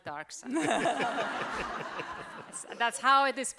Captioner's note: audience laughs